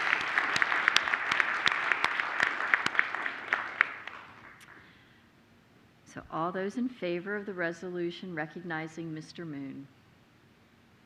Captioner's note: applause